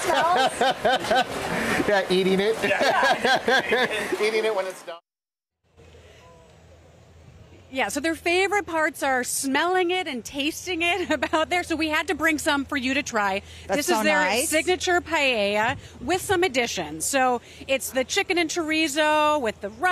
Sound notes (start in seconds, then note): 11.0 laughter